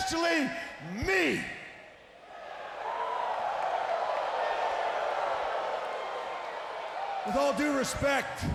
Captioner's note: crowd cheering